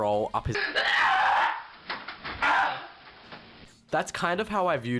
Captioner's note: aggressive moaning sounds